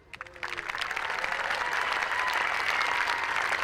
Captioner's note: applause